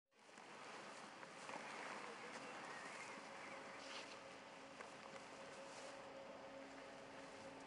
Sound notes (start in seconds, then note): 1.3 body scraping; 5.0 eerie music